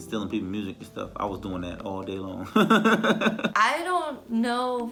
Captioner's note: laughs